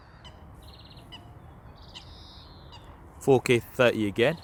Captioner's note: frogs croaking